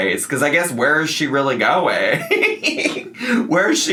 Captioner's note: laughs